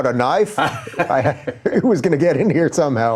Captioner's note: laughing